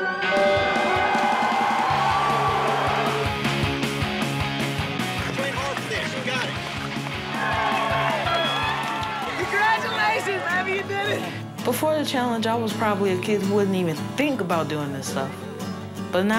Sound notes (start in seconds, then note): 7.7 cheering